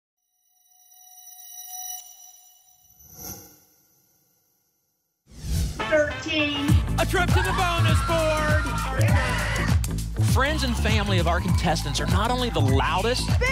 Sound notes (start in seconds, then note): 1.0 futuristic sound; 9.0 cheering